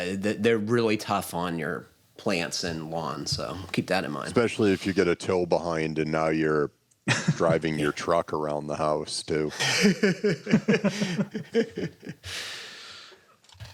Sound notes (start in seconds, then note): 9.5 laughter